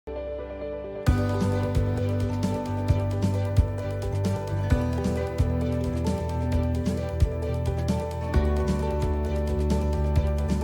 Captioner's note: introductory Sound